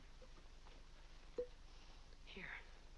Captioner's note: corks pops